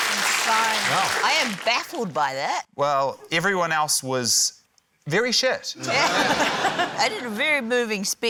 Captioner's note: cheering, applause; laughter